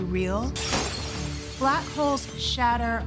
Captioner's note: glass shatters